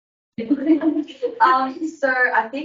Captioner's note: everyone laughs